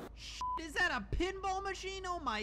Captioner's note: beep